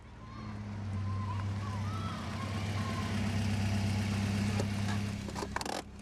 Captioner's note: children chattering; engine rumbling